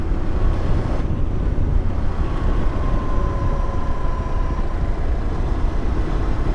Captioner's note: engine rumbling